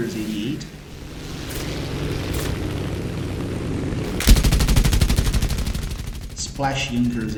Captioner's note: aircraft Engines ,Gunfire, Flying Sounds